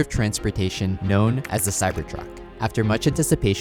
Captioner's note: keyboard keys clicking